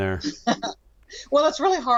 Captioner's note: laughs